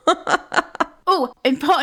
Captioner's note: laughing